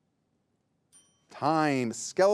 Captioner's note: bell rings